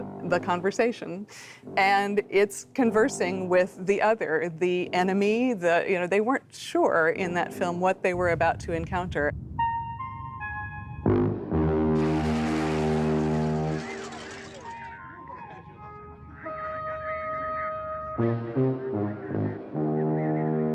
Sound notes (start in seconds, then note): 12.3 glass shattering; 13.7 repeating music notes